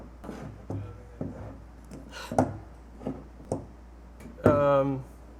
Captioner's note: chuckles quietly